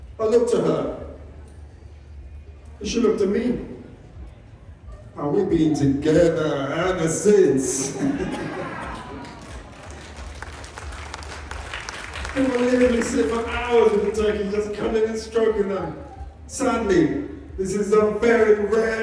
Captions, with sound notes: I looked at her, and she looked at me. And we've been together ever since! [Applause] People literally sit for hours with the turkeys just cuddling and stroking them Sadly, this is a very rare